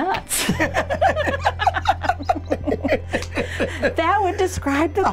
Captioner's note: laughter